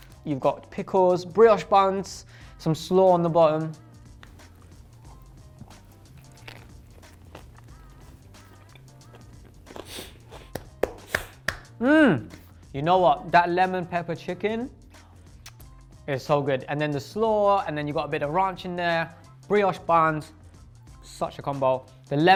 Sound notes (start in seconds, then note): 3.8 upbeat music; 10.5 clapping